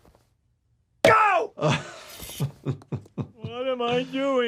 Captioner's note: laughs